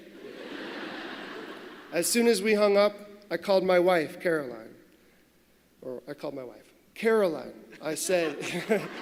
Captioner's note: laughter